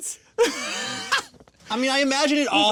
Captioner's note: laughing